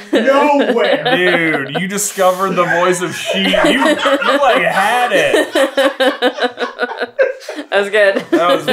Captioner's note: team laughter